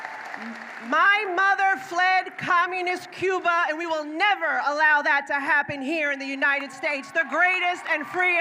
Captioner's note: applause